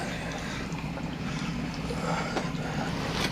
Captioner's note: labored Breathing